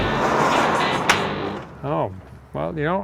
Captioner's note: door opening